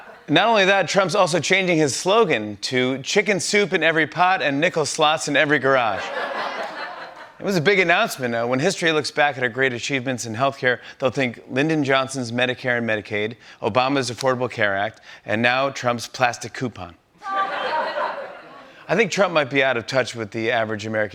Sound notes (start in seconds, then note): 5.9 laughter; 17.2 laughter